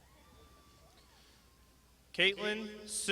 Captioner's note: crowd shouting